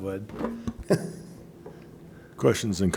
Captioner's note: chuckles